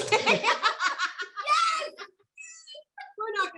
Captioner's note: laughing